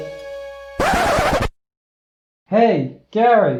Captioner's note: record scratch